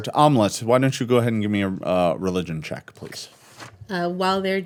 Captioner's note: none